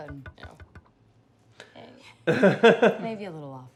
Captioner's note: laughs